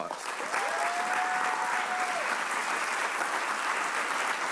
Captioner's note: audience applauds